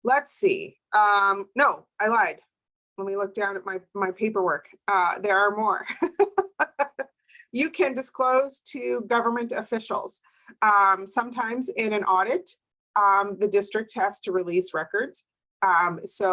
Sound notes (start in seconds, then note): 6.0 laughs